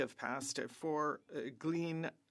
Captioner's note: speaking French